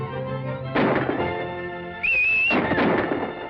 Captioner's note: whistling; instrumental music playing